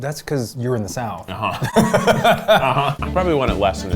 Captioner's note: laughs